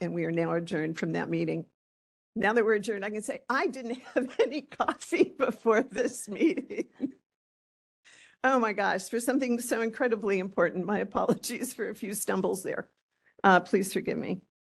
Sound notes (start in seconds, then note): 5.9 laughing